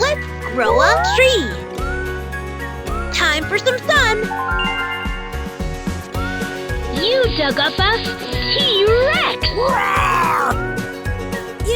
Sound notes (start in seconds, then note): 9.7 dinosaur roars